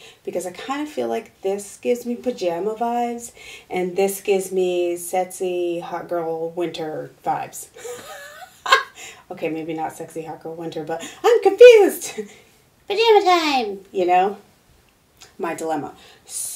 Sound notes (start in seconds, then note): 7.8 laughing; 13.0 mumbling